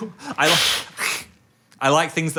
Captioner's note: hissing